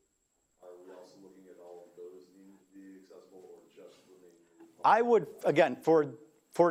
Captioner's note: faintly speaking; faintly speaking